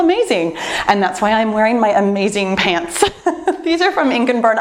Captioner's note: laughs